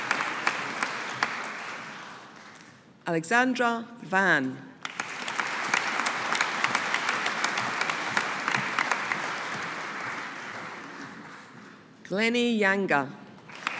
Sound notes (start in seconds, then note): 4.8 audience applauding; 13.4 audience applauding